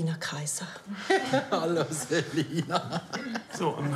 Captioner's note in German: Lachend